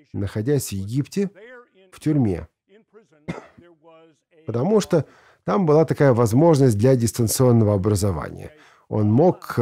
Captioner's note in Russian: кашель